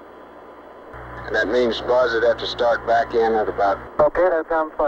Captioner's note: mission Control Audio